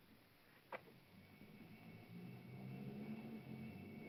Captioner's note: door softly clicks open; ominous music